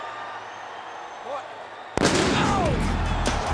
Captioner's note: fireworks banging